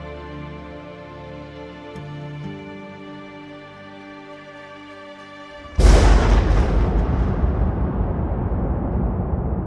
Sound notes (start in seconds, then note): 5.7 gunfire blasts